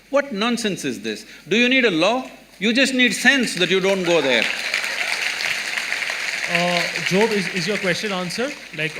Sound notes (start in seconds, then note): 6.1 applause